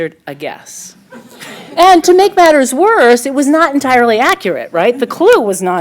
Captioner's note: laughter